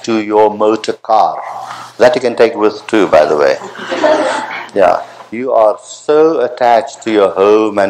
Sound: laughter

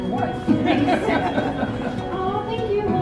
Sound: laughing; chattering

